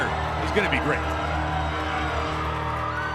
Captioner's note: crowd chatter